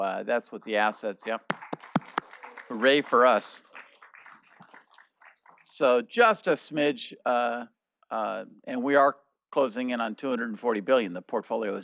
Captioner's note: applause